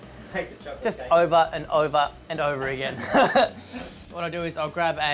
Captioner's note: laughs